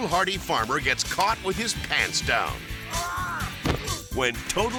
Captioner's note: farmer yells